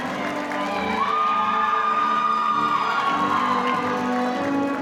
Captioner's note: audience cheering